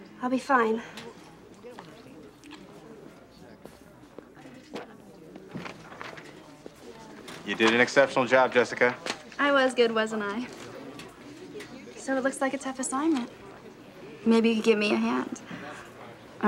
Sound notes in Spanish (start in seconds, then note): 1.6 estudiantes murmurando